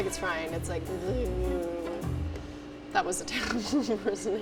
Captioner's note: buzzing